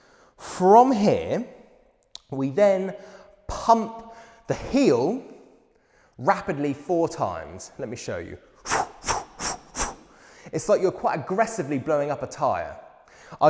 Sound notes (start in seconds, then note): 8.6 four rapid exhales